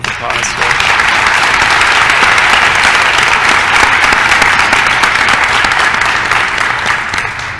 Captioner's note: applause